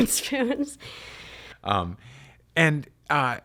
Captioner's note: laughs